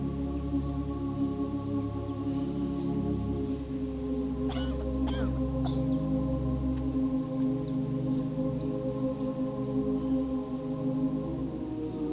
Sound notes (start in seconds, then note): 4.4 Abby coughs; 9.2 peaceful music